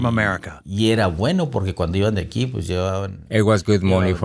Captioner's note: speaking in foreign language